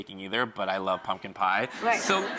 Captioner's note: laughs